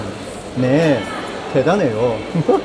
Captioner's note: Korean